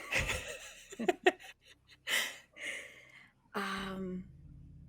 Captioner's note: everyone laughs